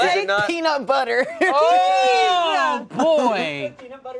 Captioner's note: laughter